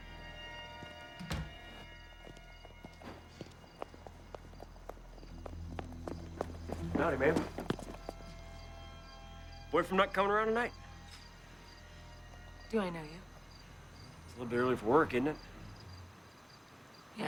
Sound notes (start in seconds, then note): 0.0 foreboding music; 2.2 footsteps tapping